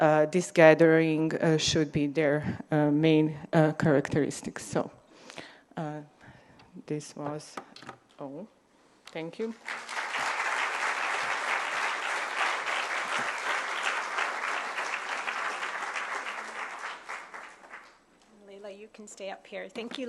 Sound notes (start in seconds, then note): 9.6 applause